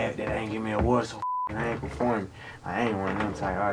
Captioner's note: beep